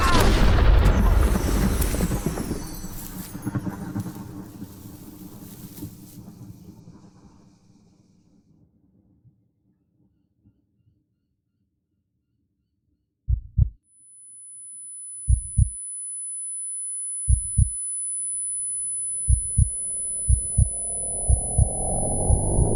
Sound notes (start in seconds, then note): 0.0 loud explosion; 7.0 low rumble fades to silence; 13.4 slow heartbeat; 13.9 high-pitch ringing